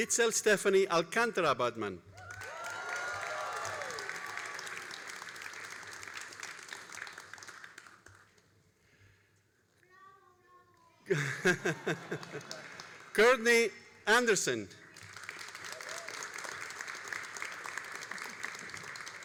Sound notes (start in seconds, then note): 2.1 all applauding and cheering; 14.9 all applauding